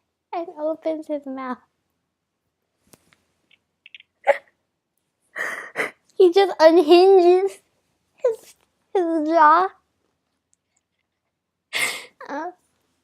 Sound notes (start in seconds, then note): 4.2 hyuCK; 11.7 iNHALE